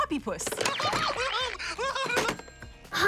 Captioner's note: laughs deliriously